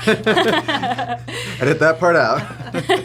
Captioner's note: laughing